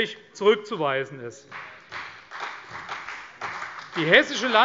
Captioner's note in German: Beifall CDU und BÜNDNIS 90/DIE GRÜNEN